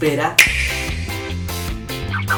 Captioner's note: click